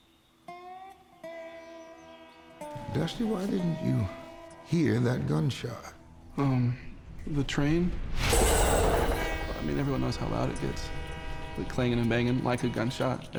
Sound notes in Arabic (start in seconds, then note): 0.3 موسيقى ريفية بطيئة; 8.3 رنين معدني، بوق القطار